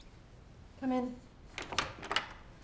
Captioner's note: door opening